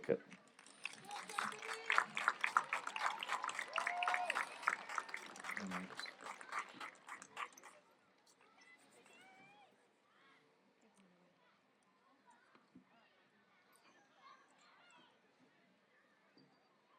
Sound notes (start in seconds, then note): 3.0 applause